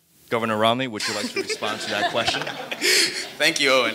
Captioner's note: attendees laughing